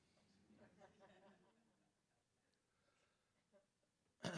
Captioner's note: audience chuckling